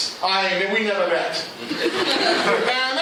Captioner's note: laughter